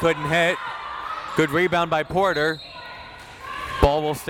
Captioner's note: whistle tweeting